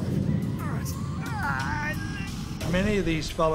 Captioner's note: groaning